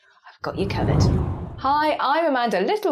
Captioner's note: graphic whooshes